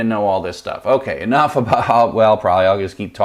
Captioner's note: laughs